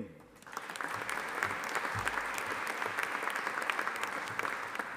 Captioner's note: audience applauding